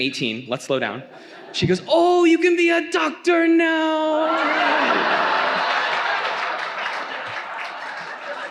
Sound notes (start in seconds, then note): 4.2 audience laughs